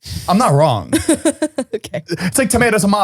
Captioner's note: laughs